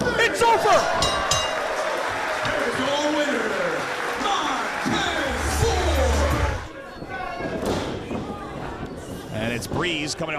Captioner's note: applause